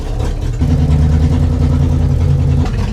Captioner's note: engine noise